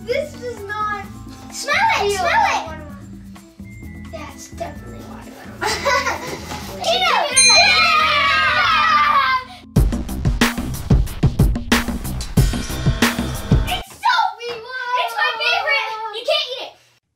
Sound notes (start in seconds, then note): 5.6 laughs; 7.3 ding; 9.7 fun music